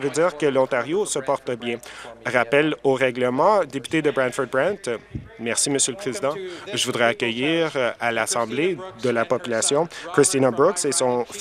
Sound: some Applause

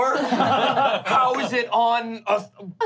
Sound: laughing

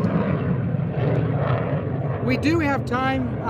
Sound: airplane engine

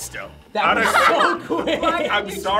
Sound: group laughs

